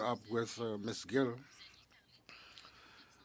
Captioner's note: speaking French